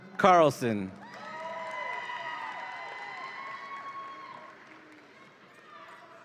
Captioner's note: audience applauds and cheers